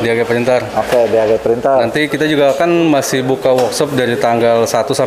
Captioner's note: distant chattering